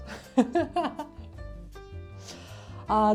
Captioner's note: laughter